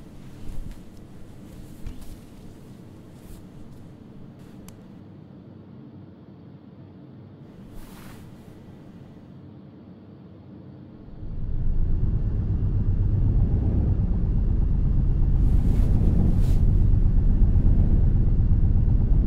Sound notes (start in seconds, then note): 7.5 bed sheets rustling; 11.0 deep rumbling sound; 15.3 bed sheets rustling